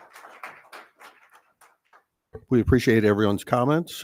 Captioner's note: audience clapping